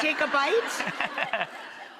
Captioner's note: laughter